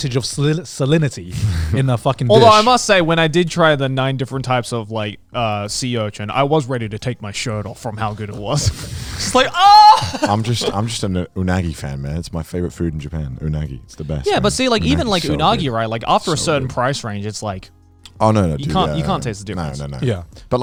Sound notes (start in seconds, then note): 9.7 laughs